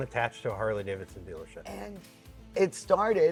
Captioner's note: none